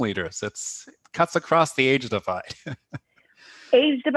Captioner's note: laughter